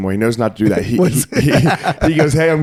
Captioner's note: laughing